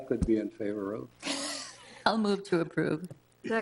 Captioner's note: people chuckle